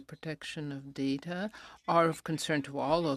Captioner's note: speaking in french